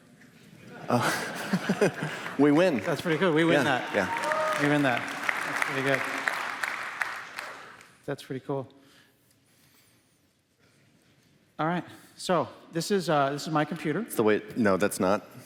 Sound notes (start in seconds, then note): 0.6 laughter; 5.0 cheers